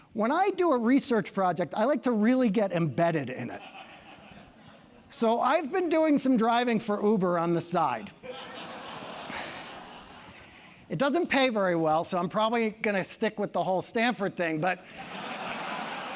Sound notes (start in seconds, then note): 8.2 laugh; 15.0 laugh